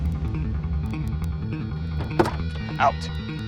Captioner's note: footsteps